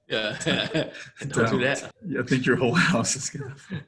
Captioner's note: laughs